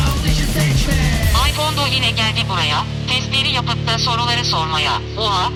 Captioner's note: iPhone "speak selection" function reading theme song lyrics